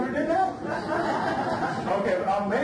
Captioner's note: audience laughs